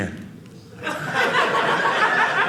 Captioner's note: audience laughing